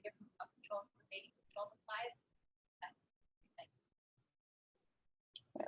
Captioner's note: audio drops